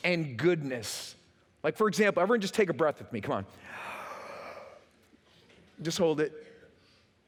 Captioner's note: takes breath